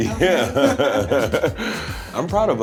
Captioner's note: all laughing